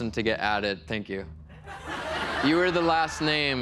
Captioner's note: laughter